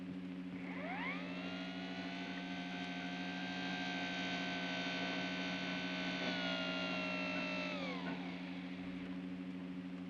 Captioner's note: soft hum; door mechanism whines; soft hum